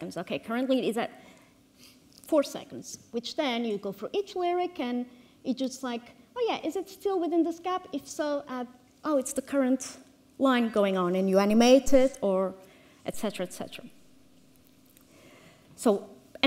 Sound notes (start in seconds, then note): none